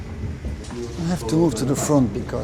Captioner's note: foreign language